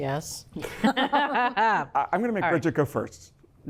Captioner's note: both laugh